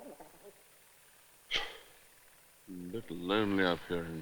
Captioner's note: sighs